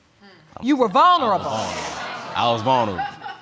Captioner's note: audience exclaims